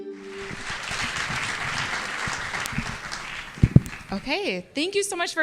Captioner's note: inspirational music; audience applauds